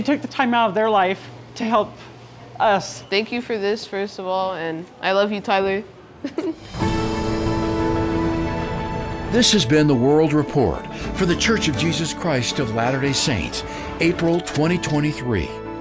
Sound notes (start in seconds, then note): 6.2 chuckles; 6.7 gentle music